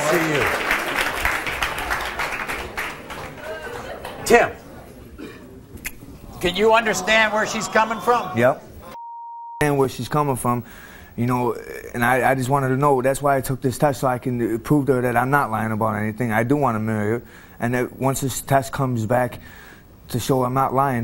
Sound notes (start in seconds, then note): 0.0 audience applauding